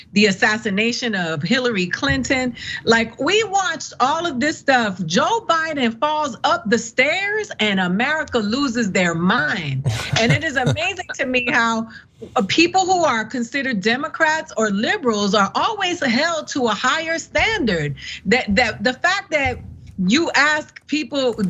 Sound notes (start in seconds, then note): 9.8 laugh